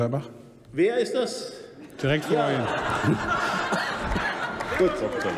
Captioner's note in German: Heiterkeit bei der CDU/CSU und der SPD